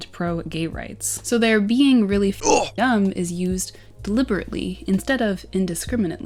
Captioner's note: grunt